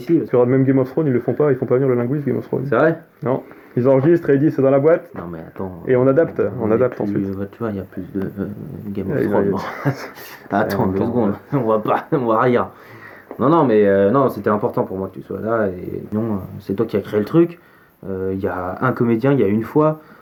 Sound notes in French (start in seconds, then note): 9.5 rires